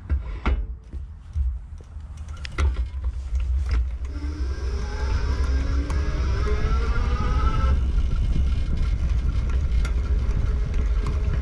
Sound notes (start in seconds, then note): 0.1 metal scraping; 4.1 electric buzzing